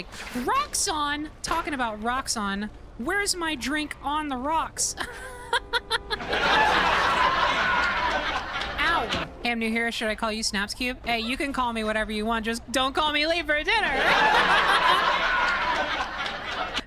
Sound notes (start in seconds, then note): 4.9 fake-laughs; 5.0 canned laughter; 14.0 canned laughter